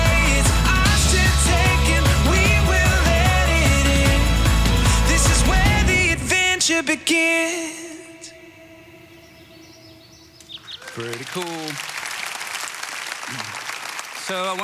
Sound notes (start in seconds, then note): 8.6 birds chirping; 10.6 audience applauds